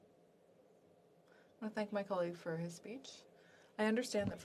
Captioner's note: speaking French